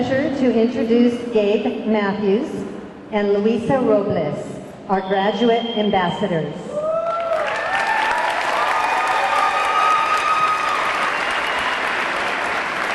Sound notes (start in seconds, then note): 6.8 audience cheering; 7.0 audience clapping